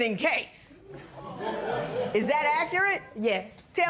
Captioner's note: spectators murmur